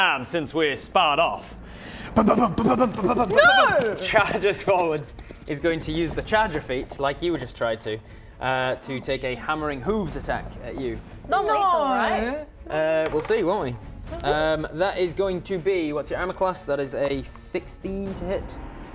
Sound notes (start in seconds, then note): 2.1 gallops